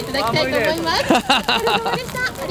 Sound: laughs

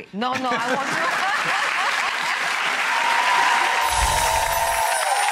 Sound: audience applauds

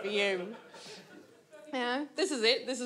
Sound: audience laughs

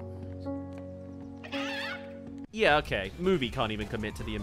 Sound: sad* *Squawk

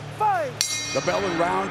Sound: bell dings

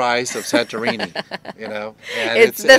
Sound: laughing

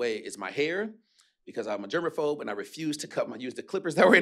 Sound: none

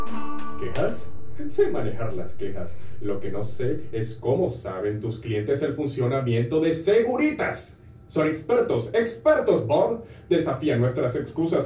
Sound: speaking Spanish

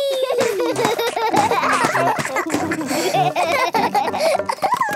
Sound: both laugh

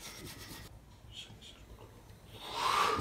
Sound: two exhalations

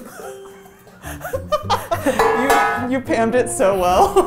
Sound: laughing

